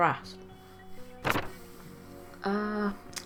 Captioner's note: paper rustling sounds